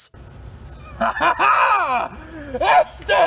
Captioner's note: laughing